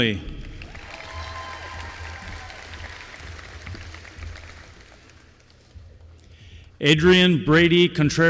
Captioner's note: applause